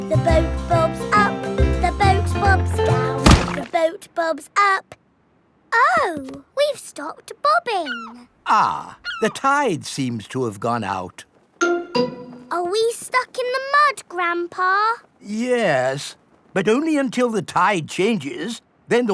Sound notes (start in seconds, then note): 3.2 thuds